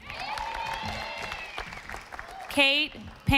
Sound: audience applauding

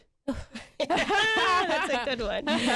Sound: group laughs

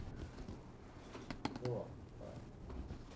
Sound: pencil taps

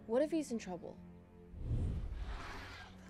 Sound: dinosaur roar

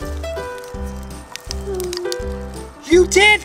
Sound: blacklights click

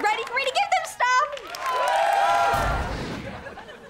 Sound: cheering

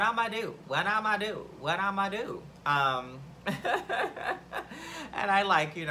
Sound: laughs

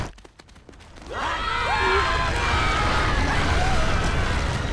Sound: screaming

